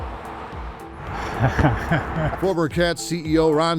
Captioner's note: chuckling